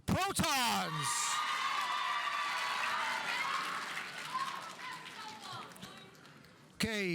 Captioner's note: audience cheering; audience applauding